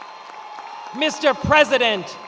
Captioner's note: attendees cheering and applauding